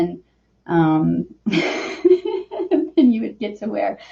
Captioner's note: laughs